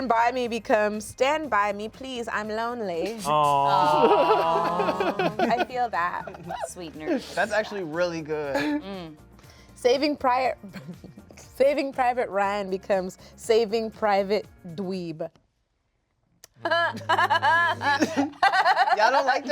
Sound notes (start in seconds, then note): 4.8 laughs; 16.6 laughs